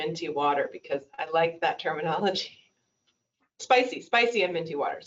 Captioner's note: laughs